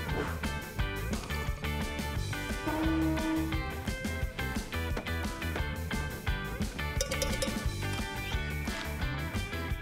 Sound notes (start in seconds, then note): 2.4 honking; 6.9 ringing